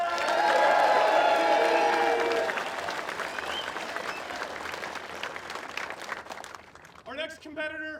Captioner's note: applause